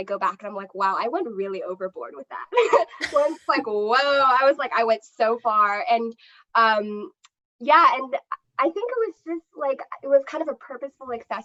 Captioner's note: laughter